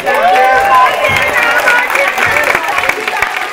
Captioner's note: cheering and applause